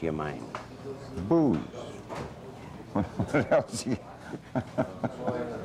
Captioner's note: both laugh